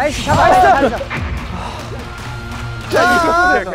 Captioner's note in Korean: 진심의 한숨